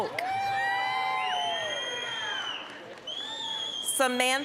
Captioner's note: applause, cheering